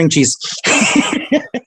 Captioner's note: laughing